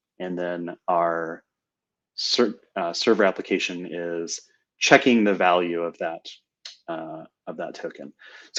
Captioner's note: none